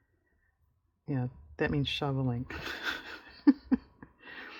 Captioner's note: laughs